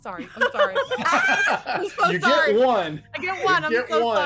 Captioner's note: all laughing